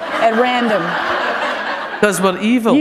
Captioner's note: laughter